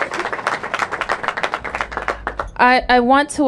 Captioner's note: applause